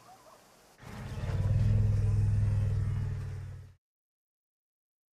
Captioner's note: rumbling